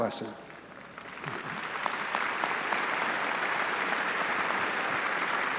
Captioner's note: audience clapping